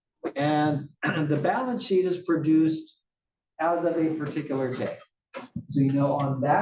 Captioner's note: cough